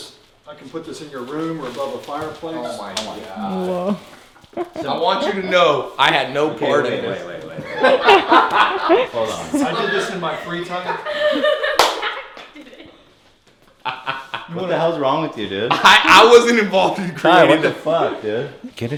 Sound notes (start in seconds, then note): 11.1 numerous individuals laughing